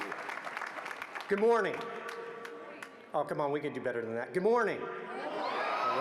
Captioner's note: applause